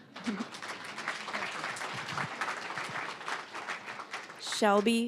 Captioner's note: applause